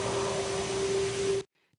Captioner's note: howl